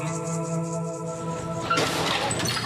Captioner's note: glass breaking